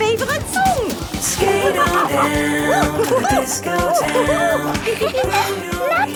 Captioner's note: laughing and exclaiming